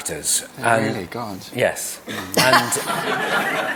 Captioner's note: laughter